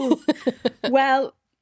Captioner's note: laughing